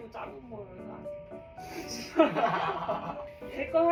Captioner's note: laughing together